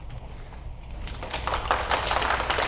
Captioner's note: applause